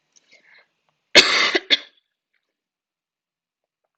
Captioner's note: coughs